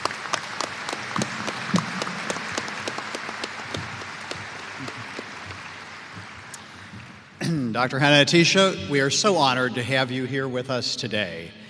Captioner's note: applause